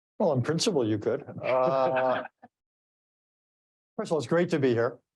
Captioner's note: all chuckling